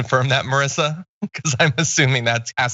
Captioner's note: laugh